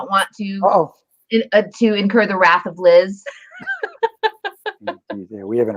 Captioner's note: laughter